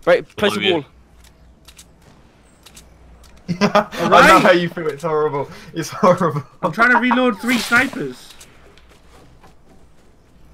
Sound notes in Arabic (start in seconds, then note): 3.4 ضحك